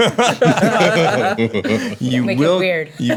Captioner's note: laughing